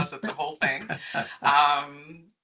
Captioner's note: laughing